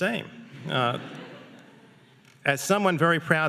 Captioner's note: audience laughing